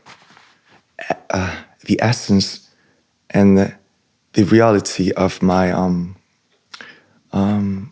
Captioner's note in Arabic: ينظف الحلق